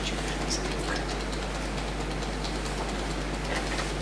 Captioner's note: tapping